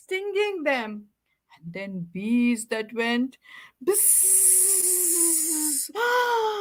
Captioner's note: gasps